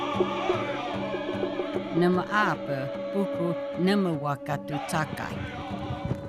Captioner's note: in Native language